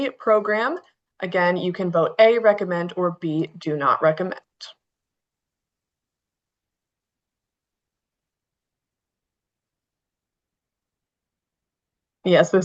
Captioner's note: pause